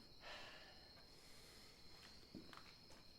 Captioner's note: sighs